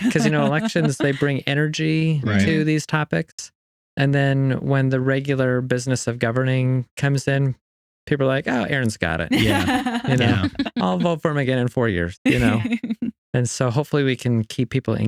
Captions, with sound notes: Because you know, elections, they bring energy to these topics. And then when the regular business of governing comes in, people are like, oh, Aaron's got it. (Laughing) I'll vote for him again in four years. And so hopefully we can keep people